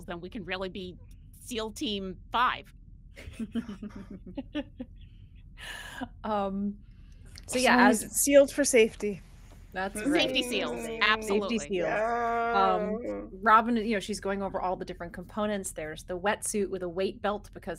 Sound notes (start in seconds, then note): 3.2 people laughing